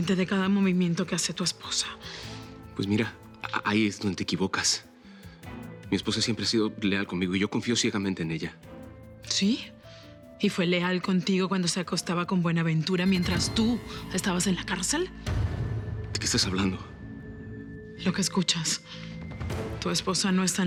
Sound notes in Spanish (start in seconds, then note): none